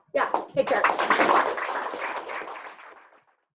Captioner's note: applause